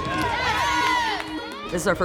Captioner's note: players cheering